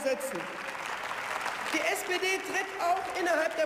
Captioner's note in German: Beifall